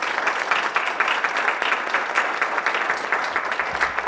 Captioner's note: applause